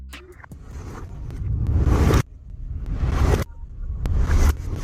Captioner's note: flips whooshing